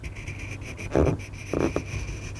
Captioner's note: delicate scraping noises